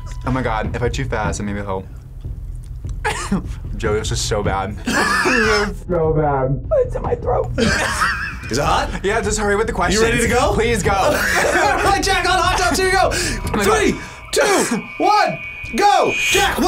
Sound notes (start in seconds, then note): 4.7 laughs; 7.5 both laugh; 11.0 both laugh